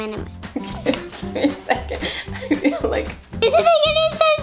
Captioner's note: laughing